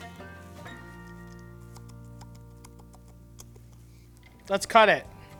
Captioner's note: teeth chatters